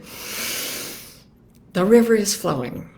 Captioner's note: inhales deeply